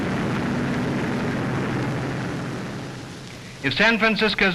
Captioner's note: traffic rumbles